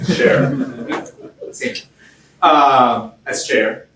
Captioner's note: gentle laughter